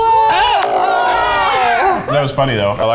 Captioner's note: all yelling